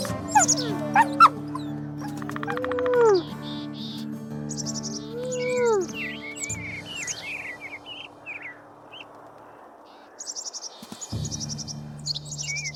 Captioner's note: sounds Of The Wild